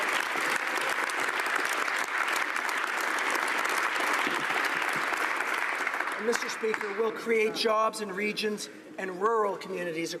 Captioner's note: applause